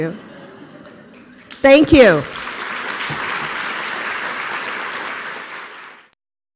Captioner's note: audience laughing; applause